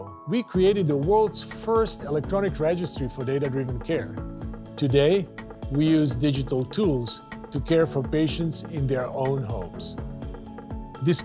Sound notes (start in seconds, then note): none